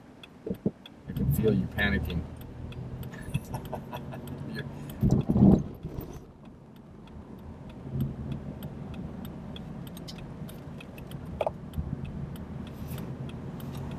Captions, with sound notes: I can feel you panicking. (laughs) (blinker flashing)